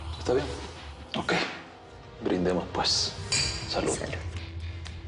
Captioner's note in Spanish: Chocan las copas